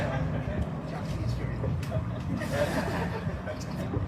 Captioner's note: audience laughs